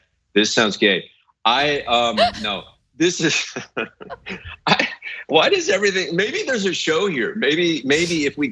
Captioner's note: laugh